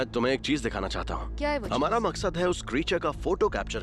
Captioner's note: narrating